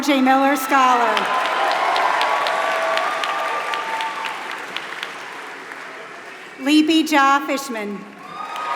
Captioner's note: applause; applause